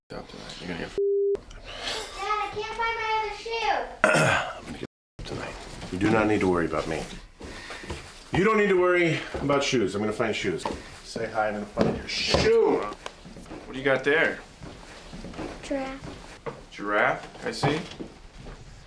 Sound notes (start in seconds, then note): 1.5 laughs; 4.0 clears throat